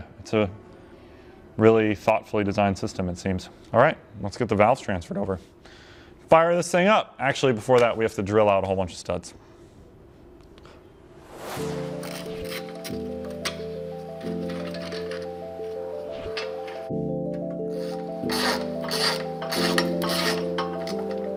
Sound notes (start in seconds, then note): 11.5 tool whirring; 12.3 bolts clanking